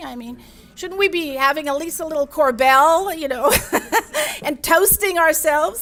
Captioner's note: laughs